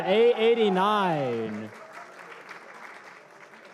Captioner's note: applause